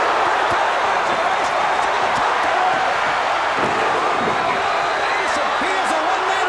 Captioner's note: crowd's roar drowns out commentary